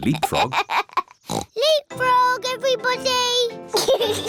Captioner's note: laughs; oinks; all laugh